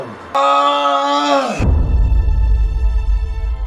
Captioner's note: Xolwa Screams